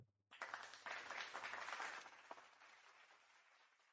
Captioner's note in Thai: ปรบมือ